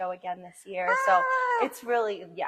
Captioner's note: cheers